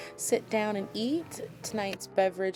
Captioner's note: camera shutter clicks